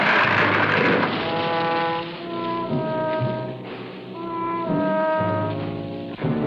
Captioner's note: tree breaking; solemn music